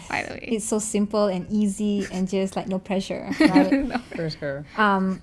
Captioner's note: laugh